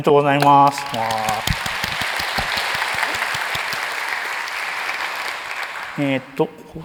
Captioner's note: applause